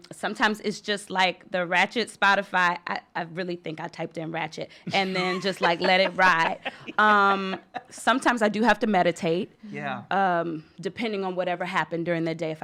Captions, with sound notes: Sometimes it's just the ratchet Spotify, I really think I typed in "ratchet" and then just let it ride. (laughter) Sometimes I do have to meditate, depending on whatever happened during the day,